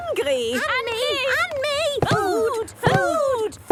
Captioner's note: calling out in turn